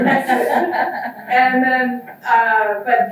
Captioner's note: audience laughs